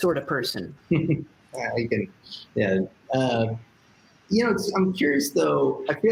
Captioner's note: chuckles